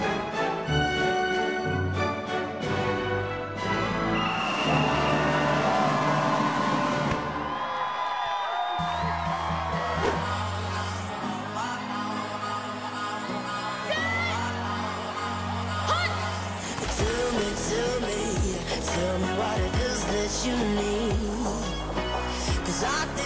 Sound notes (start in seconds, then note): 3.9 whistle blowing; 3.9 cheering